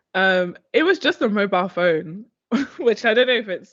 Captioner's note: chuckles